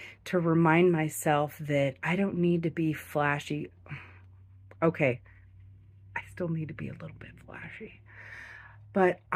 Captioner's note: sigh